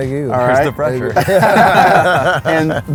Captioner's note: laughs